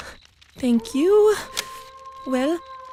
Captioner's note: wolf howls